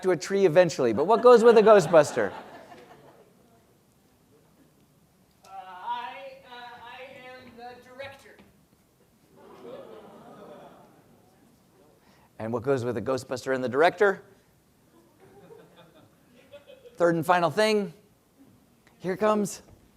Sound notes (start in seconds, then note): 14.9 laugh